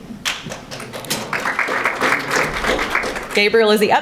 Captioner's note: audience applauding